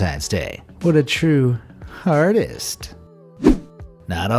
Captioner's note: air whooshing